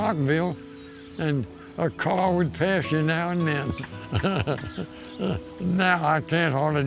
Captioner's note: laughs